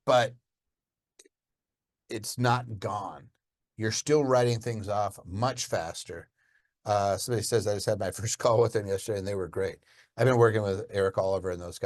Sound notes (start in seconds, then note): none